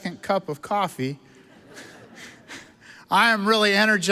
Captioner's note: audience laughs